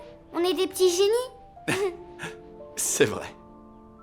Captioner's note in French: rires